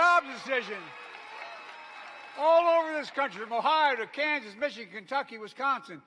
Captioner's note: applause